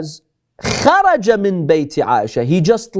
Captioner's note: Arabic